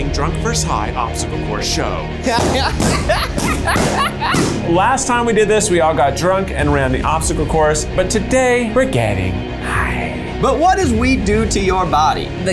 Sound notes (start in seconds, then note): 2.2 Zach laughing; 2.3 balloons popping